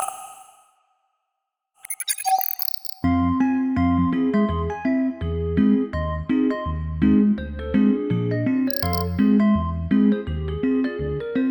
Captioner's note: electronic sound